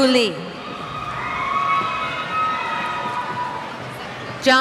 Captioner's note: cheers